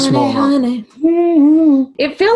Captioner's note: humming